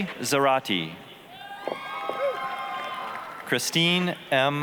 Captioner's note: applause, cheering